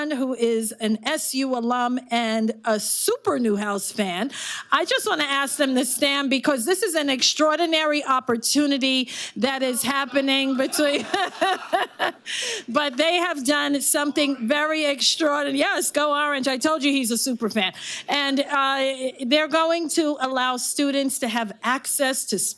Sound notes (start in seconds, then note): 9.4 laughing